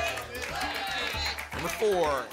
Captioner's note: audience shouting numbers